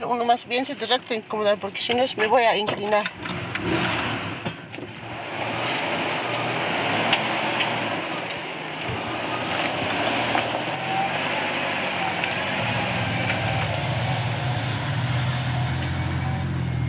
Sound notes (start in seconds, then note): 0.1 speaking in foreign language; 6.2 engine rumbling